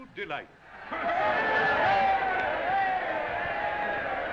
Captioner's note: crowd cheering